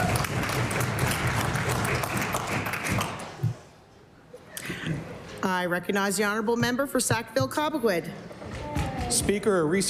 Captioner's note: cheering/Applause